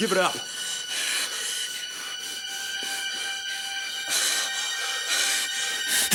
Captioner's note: Jodie breathing heavily